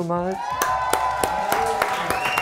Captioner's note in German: Jubel, Applaus